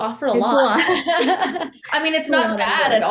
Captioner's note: laughs